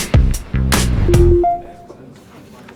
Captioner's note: door opening sound; phone notification sound